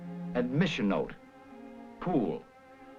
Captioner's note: voiceover